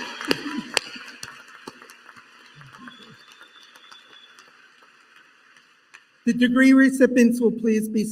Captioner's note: applause